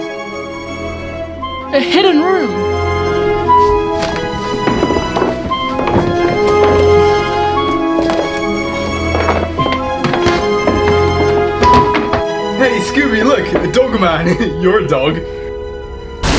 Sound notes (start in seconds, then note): 0.3 suspenseful orchestral music continues; 4.7 books clattering